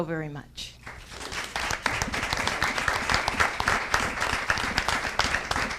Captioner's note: audience applauding